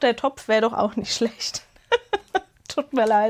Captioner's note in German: Gelächter